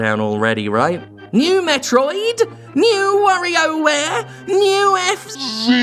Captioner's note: mocking impression